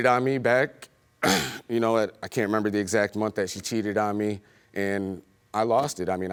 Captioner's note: clears throat